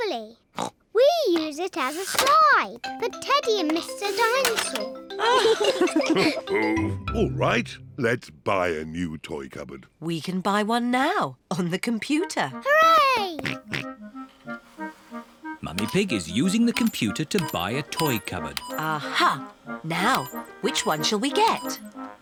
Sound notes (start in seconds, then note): 0.3 snorts; 5.1 both laugh; 14.2 snorts